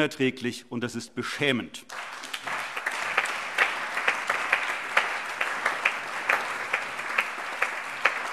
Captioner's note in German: Allgemeiner Beifall